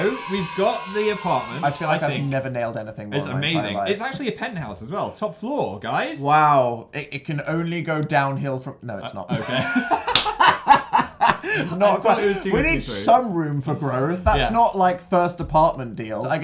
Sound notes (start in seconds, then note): 9.3 laughing